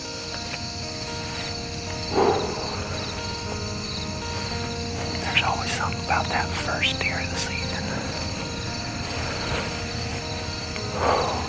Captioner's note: whispering